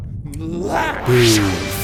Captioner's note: exclaims